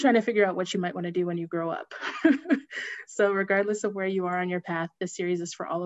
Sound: laughter

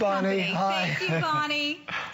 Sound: laughter

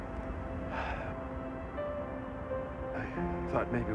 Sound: sighs

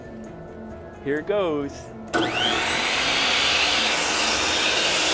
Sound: saw buzzing

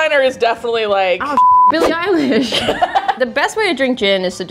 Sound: beeping

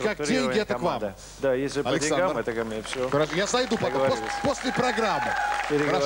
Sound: applause

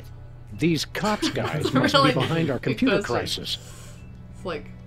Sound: laughs

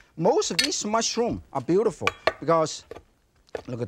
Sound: knife clinks; knife thudding; mushrooms crunching

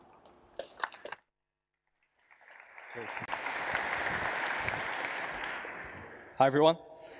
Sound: applause

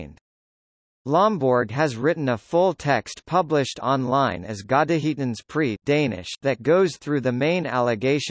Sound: Danish

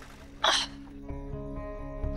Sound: grunting

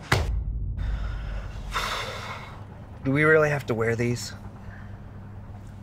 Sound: sighs

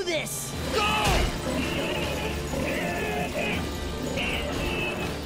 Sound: grunting

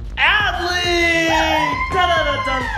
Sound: cheering

